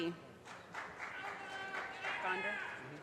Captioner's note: audience cheers and applause